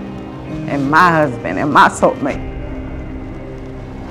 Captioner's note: voice cracking